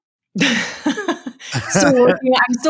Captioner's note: laughing